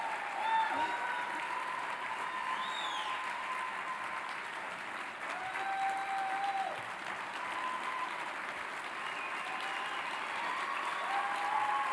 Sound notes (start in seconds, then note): 0.6 applauding and whistling